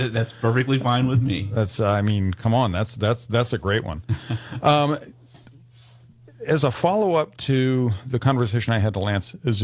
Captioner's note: pauses as chuckles